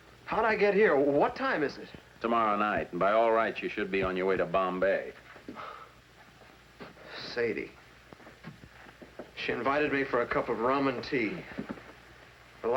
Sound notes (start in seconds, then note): 5.5 sighs